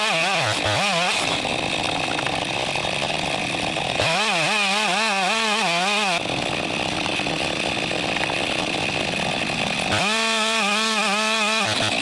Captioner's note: sound of chainsaw